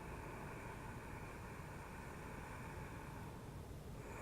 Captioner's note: loud breathing